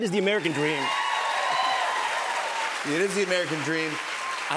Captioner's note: cheers and applause